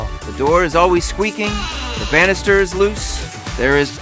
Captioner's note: door squealing